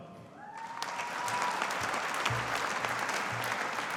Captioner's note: audience applauding